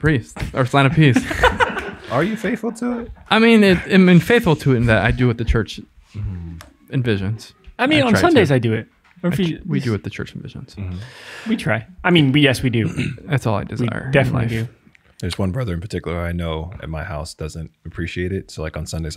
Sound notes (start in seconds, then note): 1.1 all laugh